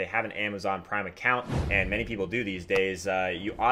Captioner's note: air whooshes